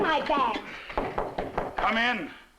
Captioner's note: knocking on door